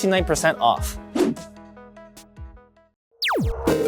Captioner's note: air whooshing